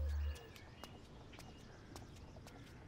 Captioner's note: Footsteps